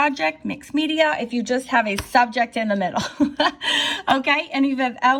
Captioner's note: laughs